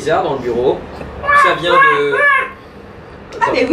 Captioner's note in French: bruit de canard